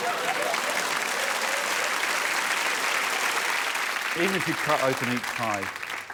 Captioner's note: laughter; applause